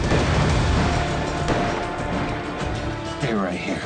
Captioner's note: gunshots